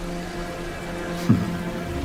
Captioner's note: gasps